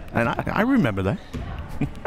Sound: laughs

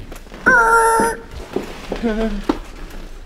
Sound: makes sound of screeching brakes

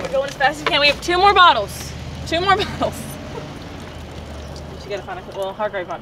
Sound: participants chatting softly

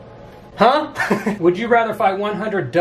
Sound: laughs

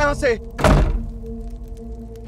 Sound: door closes

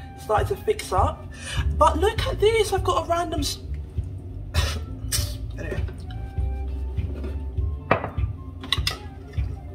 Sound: huffs and kisses teeth

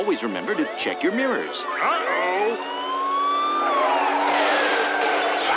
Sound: siren blaring

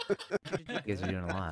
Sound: laughing

